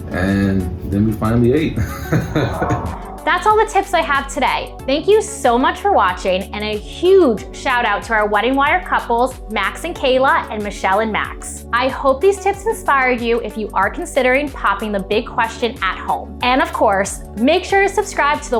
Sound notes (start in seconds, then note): 1.7 laughs